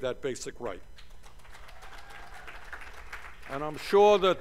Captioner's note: cheers and applause